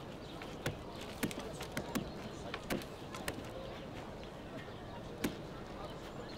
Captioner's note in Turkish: Kuş cıvıltısı sesleri; Çekiç sesleri